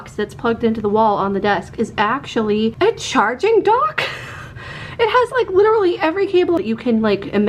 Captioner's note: laughing